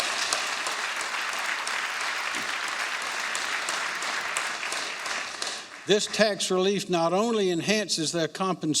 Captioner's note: applause